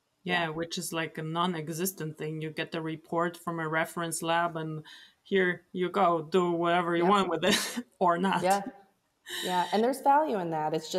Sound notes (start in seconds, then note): 9.4 laughs